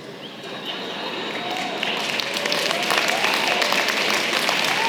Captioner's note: applause